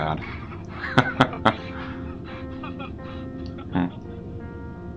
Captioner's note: Ludlow and the caller laugh